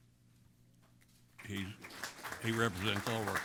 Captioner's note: applause